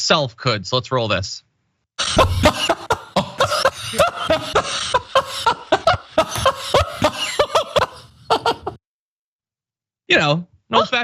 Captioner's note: laugh